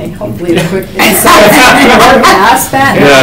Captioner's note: attendees laugh